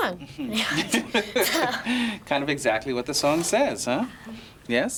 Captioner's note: laughs